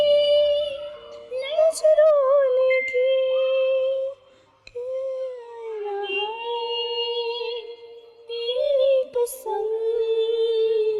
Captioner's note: humming